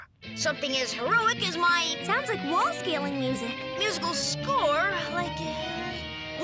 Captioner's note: none